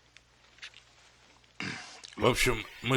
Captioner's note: clears throat